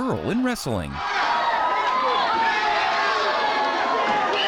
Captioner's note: audience cheering